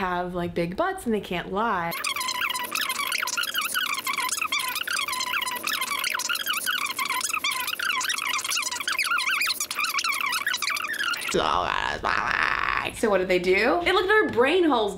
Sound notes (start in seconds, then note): 0.0 sound of fast-forwarding; 1.9 fast-forwarding